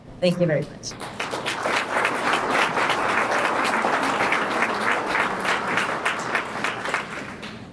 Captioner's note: applause